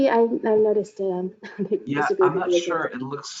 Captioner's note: chuckles